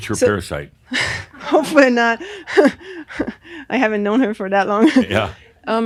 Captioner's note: she chuckles